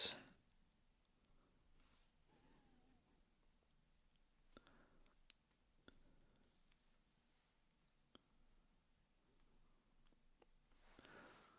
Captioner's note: silence